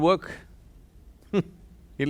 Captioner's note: laughs